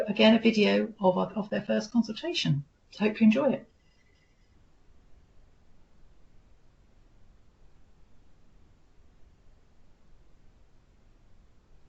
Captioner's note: silence